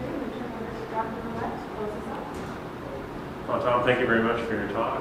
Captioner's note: woman talking quietly